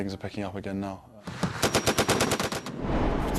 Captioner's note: gun firing; voiceover